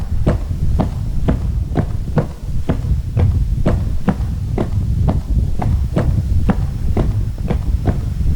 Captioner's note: footsteps